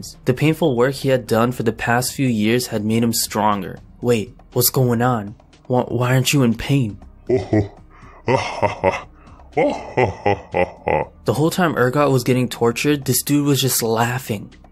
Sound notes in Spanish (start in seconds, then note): 7.2 risa malévola